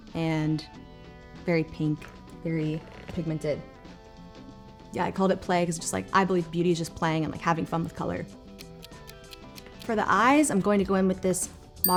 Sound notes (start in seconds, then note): 9.3 timer ticking